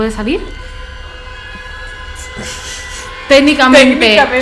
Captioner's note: laughs